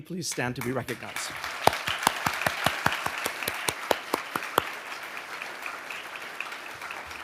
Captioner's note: audience applauding